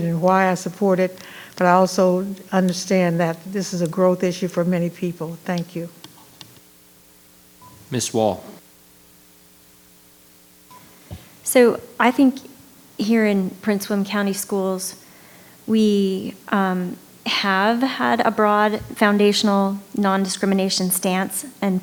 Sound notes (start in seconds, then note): 7.5 microphone beeping; 10.6 microphone beeping